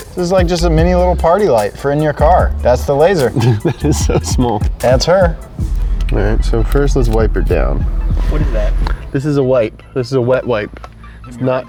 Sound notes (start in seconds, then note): 2.8 laughs